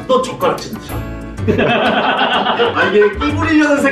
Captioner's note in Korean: 웃음소리